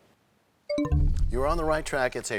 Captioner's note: bell chimes, time expires